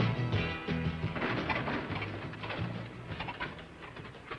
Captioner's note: engine sputtering